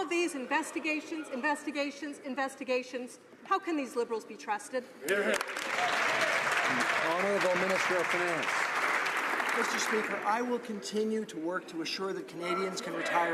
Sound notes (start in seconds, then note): 8.0 some Applause